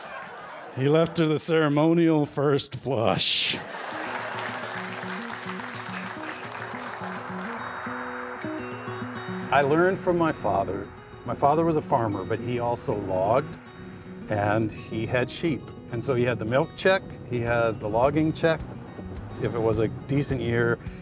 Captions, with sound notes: He left her the ceremonial first flush. [laughter] [acoustic guitar] I learned from my father. My father was a farmer, but he also logged, and he had sheep. And so, he had the milk check, he had the logging check. If it was a decent year,